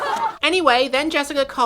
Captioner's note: laughter